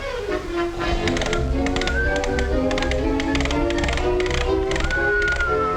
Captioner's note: turtle cranking